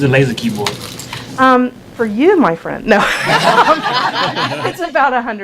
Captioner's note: laughter